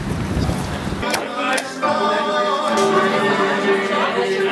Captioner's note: bar chatter